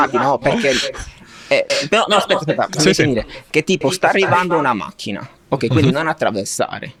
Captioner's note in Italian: risate